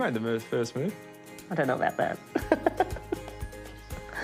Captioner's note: laughs